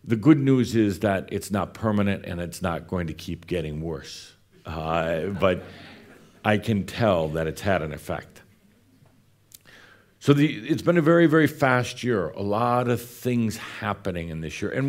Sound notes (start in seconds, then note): 4.0 a few chuckles